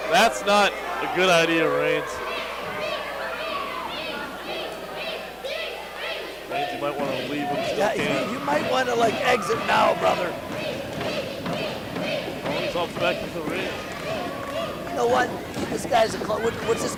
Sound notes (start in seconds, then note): 3.1 kids in crowd chant